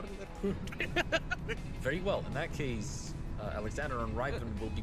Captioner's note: laughs